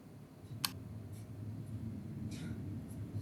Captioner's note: flashlight switching on